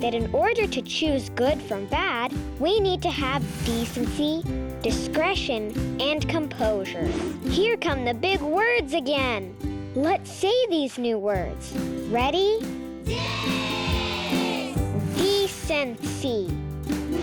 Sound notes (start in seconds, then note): 7.3 air whooshing